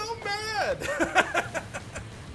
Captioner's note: laughs